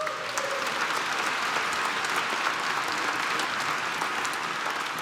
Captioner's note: applause